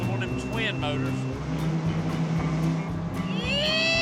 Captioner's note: revving